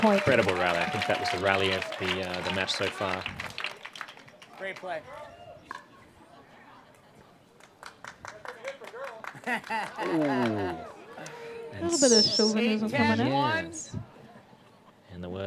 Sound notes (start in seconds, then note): 11.0 laughs